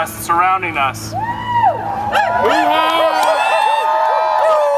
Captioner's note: cheering